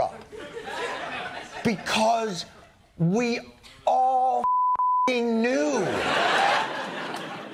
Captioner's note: laughter